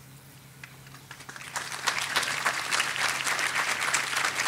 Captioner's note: audience applauding